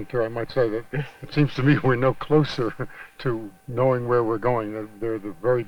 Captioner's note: chuckles